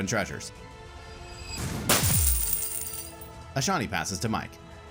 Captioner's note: token dropping and clinking